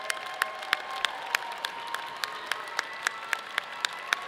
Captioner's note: students applaud; students cheer